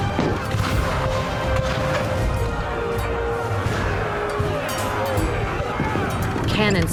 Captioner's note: cannon blasts, gunfire